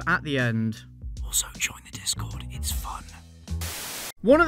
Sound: whispers

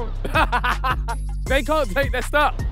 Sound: Ethan laughs

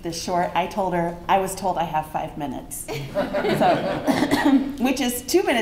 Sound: laughter

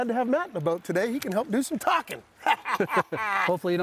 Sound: laughs

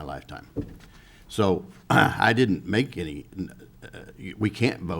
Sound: clears throat

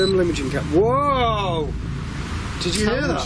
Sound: device beeps

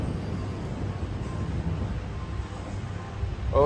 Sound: thunder rolling in the distance

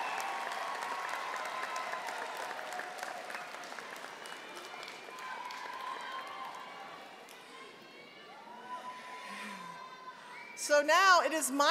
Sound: cheering and applause

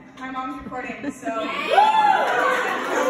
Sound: wooooo

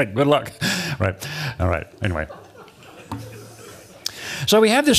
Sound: laughter

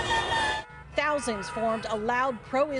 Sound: sirens

